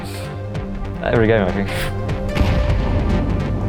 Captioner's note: laughs